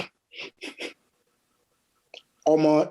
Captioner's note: scoffs